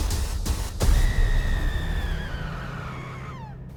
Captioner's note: screaming; whispering